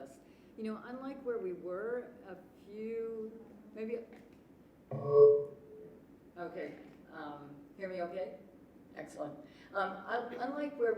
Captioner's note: mic feedback